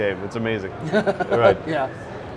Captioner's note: laughs